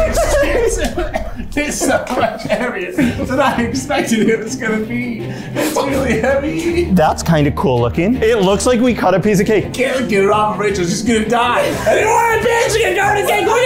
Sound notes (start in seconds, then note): 5.2 all laughing